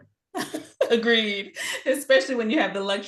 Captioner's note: chuckles